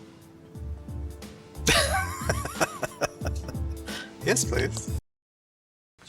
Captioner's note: laughing